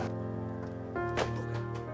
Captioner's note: folder thud